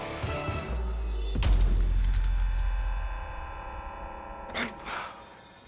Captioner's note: slicing sound